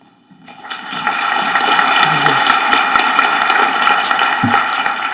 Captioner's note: audience applauding